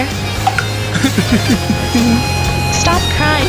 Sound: click; crying

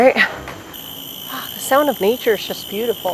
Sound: cicadas

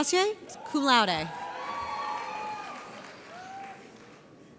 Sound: audience cheers

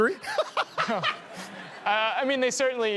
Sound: laughs

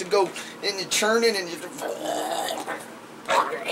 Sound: gargling sound effects

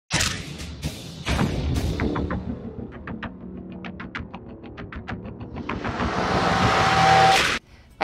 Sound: sound effects

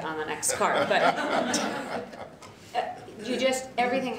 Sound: laughter

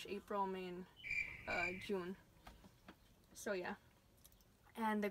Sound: crickets chirping

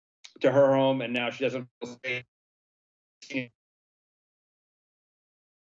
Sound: audio cuts out

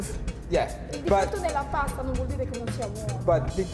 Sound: speaking Italian

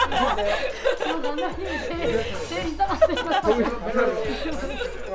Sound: laughs

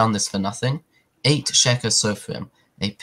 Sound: Hebrew

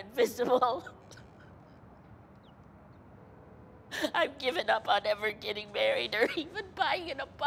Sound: sobbing

